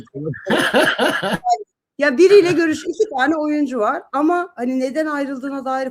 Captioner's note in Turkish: kahkaha